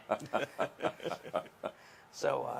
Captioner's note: laughs